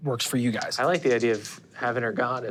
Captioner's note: dice clinking